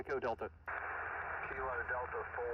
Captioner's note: radio static hissing